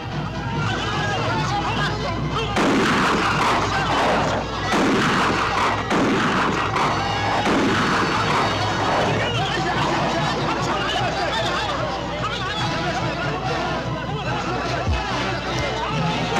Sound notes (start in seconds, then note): 0.8 group shouting; 0.8 gunshot cracking; 11.8 group shouting; 11.8 tense orchestral music